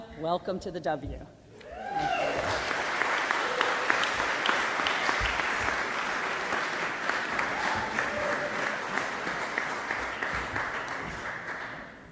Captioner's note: applause